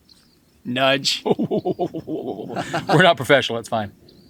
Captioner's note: laughing